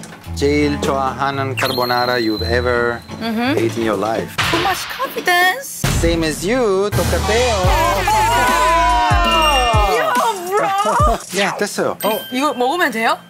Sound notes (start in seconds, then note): 7.5 alarm going on